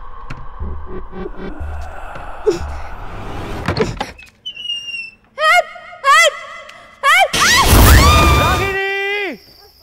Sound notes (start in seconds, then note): 3.5 door opening; 7.2 screams